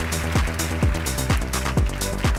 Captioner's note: applause